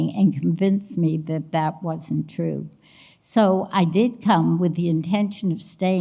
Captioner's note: none